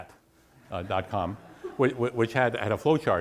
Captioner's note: students laugh